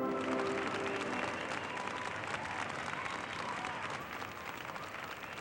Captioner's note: cheers and applause